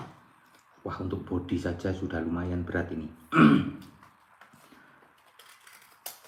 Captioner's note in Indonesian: berdehem